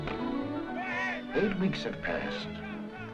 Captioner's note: voiceover